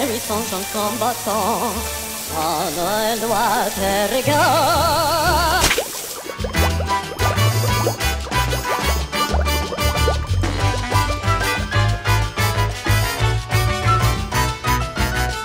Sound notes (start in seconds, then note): 5.5 splat